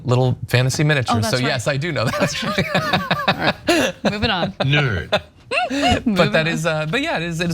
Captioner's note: laugh